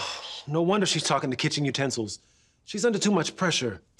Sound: sighs

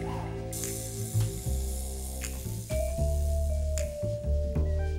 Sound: snake hissing

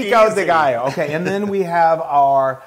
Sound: laugh

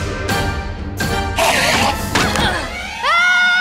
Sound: enderman screech

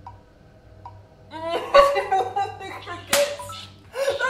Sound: whimpering

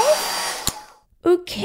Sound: click!

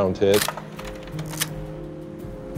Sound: camera shutter clicking; quiet music playing

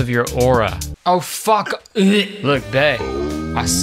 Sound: gags

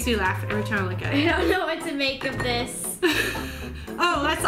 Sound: laughs; laughs

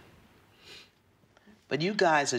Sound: sniffles

